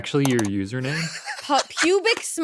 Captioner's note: laughs